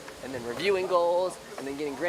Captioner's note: none